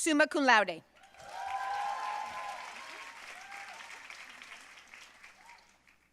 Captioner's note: audience cheering and applauding